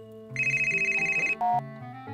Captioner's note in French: Le téléphone sonne